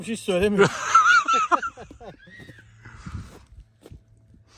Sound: laugh

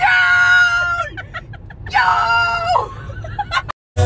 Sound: laughter

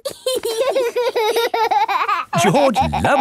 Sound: laughing

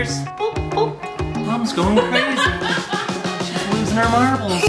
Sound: laughs

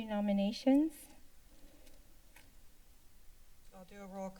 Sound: silence

